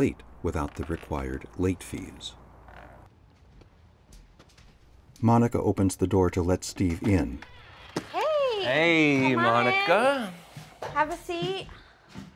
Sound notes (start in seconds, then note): 2.2 door creaks; 3.2 foot steps; 6.9 door creaks